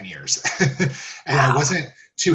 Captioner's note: laughs